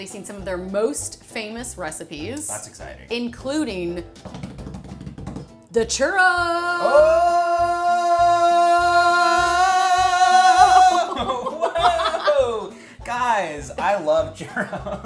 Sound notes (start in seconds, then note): 4.0 hands tapping; 10.1 laughing; 14.5 laughs